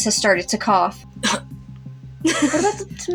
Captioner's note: short Cough; laugh